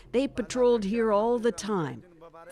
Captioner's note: speaking Foreign Language